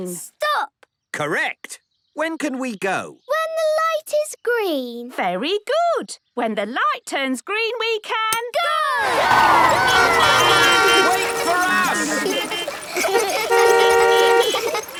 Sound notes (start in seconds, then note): 9.0 beeping; 12.2 laughter; 12.8 beeping; 12.8 laughter